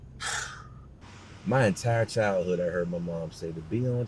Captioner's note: scoffs